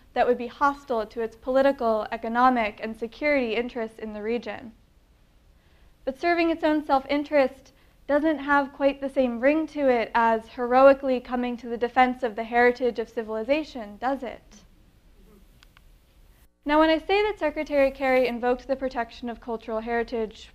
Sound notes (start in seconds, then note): 15.6 clicking sound